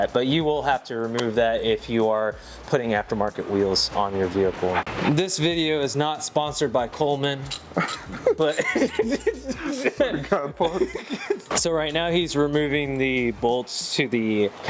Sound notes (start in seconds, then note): 7.7 laughing